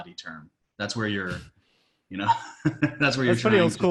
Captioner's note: laughs